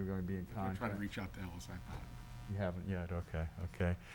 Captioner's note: faintly speaking